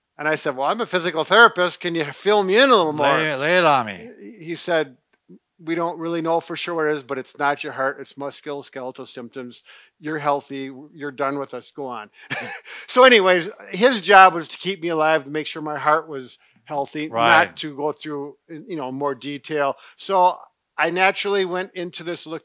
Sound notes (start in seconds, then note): 12.3 laughing